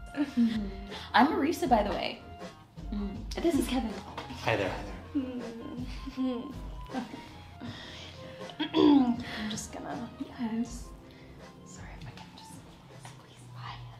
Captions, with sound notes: I'm Marisa, by the way. This is Kevin. - Hi, there. (soft upbeat music continues) - (clears throat) I'm just gonna... - Okay. - Sorry, if I can just squeeze by.